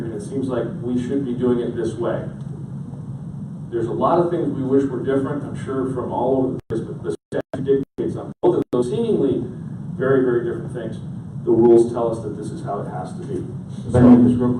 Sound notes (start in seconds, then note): 7.1 audio cutting out